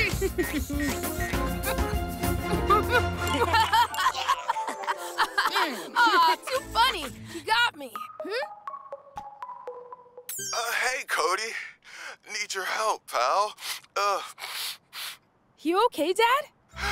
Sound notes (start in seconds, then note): 0.0 Cozmo chuckling; 0.0 energetic music; 2.5 both laughing; 8.0 tablet ringing; 13.6 sniffles